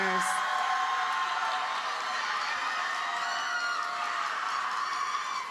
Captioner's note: audience cheers and applauds